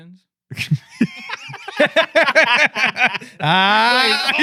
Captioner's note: laughing